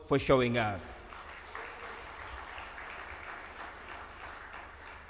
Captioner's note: audience applauds